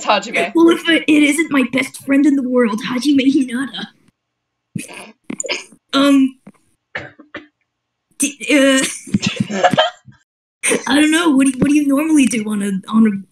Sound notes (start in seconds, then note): 4.9 trying not to laugh; 9.2 small laugh